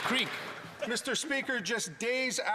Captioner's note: some Applause